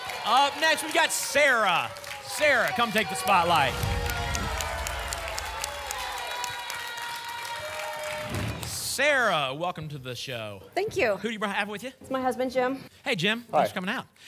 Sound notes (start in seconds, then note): 3.2 whoosh; 5.3 applause and cheering